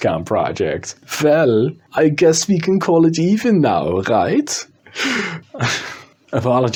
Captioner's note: in very unconvincing German Accent